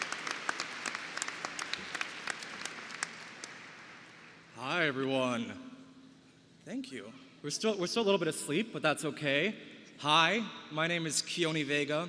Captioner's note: applause